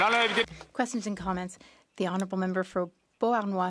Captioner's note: speaking French